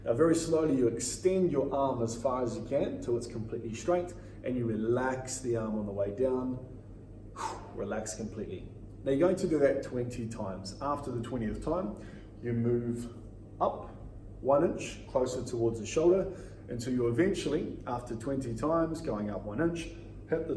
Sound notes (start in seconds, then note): 7.2 exhales